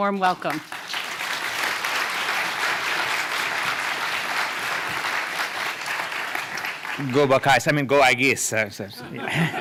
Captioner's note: foreign language 00:02:39